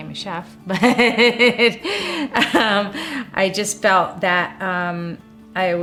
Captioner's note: laughing